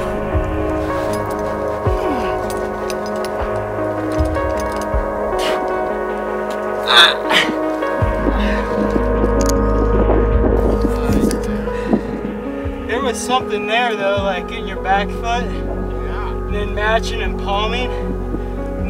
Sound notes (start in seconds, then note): 0.5 breathes heavily; 2.4 continues grunting